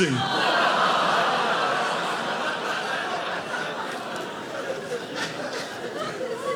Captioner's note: audience laughing